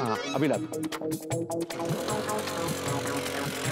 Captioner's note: engine sputtering